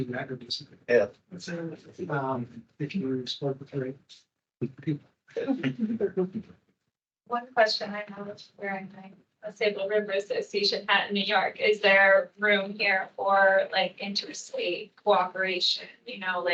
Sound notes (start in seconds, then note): 5.4 attendees laughing